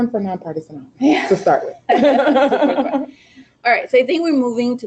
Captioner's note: laughing